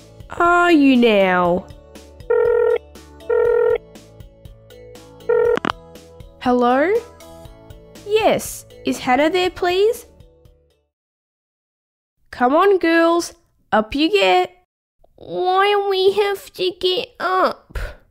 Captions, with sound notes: Are you now? (Phone ringing) Hello? Yes, is Hannah there please...? Come on girls Up you get Why we have to get up?